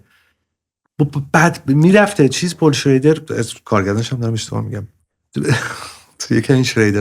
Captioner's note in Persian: خنده